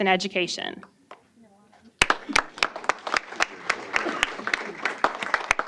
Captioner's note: applause